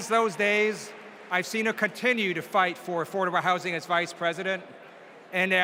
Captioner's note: applause